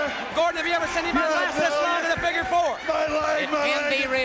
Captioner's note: none